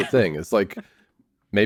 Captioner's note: laughs